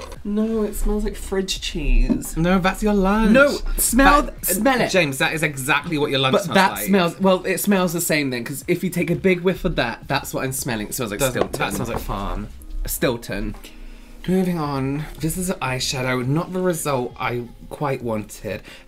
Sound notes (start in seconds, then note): none